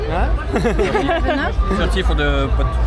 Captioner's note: laugh